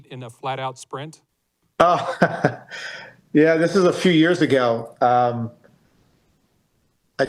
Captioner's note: laughter